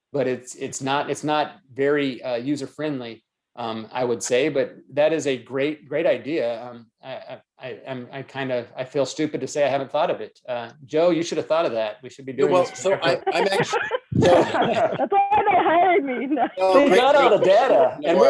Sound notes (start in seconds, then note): 12.4 all laughing